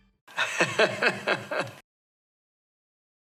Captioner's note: laughter